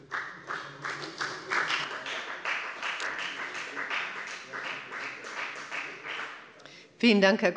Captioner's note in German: Beifall bei der FDP